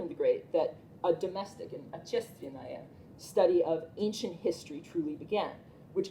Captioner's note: russian